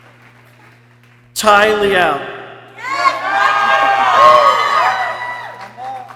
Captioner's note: people cheering